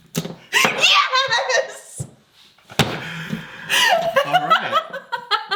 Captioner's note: attendee laughing; hands slapping; attendee laughing